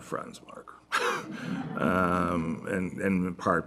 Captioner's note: laughter